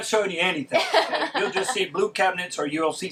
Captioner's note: laughing